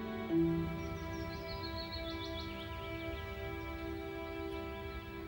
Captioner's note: birds chirping